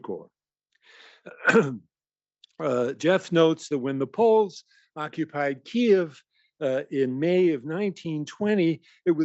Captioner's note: cough